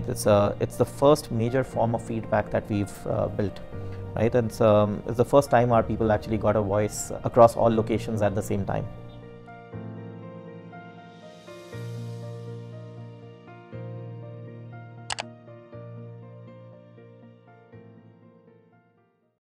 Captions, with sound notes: It’s the first major form of feedback that we have built. It’s the first time our people actually got a voice across all locations at the same time. [click]